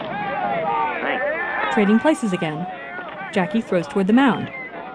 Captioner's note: yelling from stands